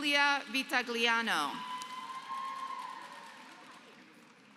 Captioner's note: applause